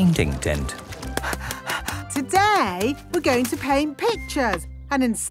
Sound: panting

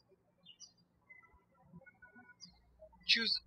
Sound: birds chirping

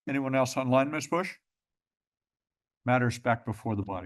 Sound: pause

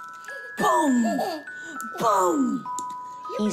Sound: giggles

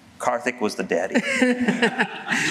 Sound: laughter

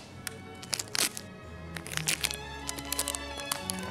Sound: tape crackles

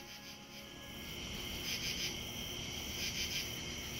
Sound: crickets chirping

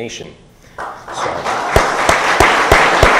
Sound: audience applauding

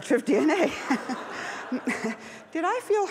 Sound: laughs

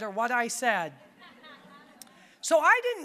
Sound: audience laughing

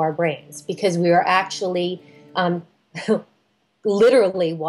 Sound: chuckles

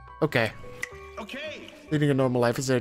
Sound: voiceover

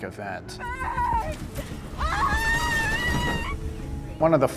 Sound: screaming

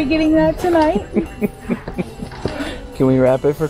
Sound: laughing

